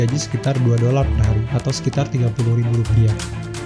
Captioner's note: applause